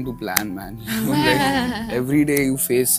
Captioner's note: giggles